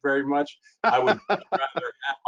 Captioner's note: laughing